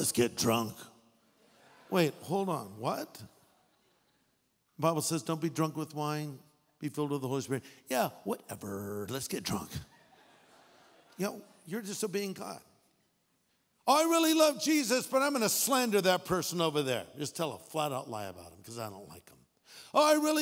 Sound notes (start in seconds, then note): 1.8 audience laughing; 9.9 audience laughing